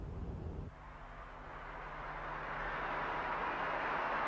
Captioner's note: crowd cheers